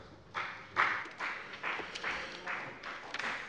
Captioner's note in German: Beifall bei der FDP